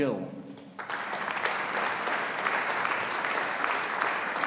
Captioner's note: audience applauding